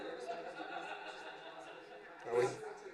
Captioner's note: laughter